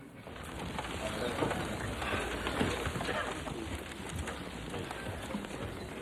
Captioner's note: crowd clattering and chattering